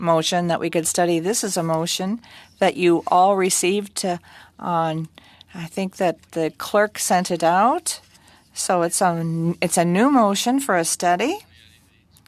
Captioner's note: speaking French